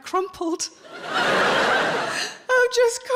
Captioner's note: audience laughing